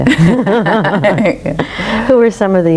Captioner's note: everyone laughs